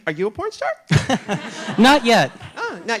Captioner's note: laughs